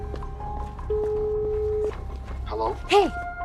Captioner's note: line beeping